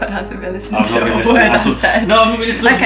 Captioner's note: laughs